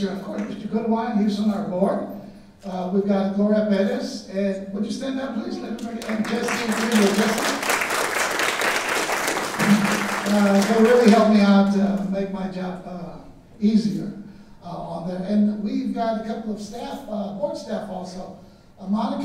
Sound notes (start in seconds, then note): 5.8 audience applauding drowning out speaker